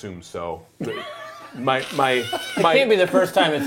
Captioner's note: laughing